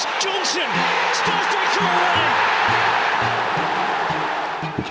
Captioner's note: crowd erupts